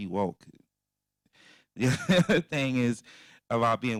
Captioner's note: laughing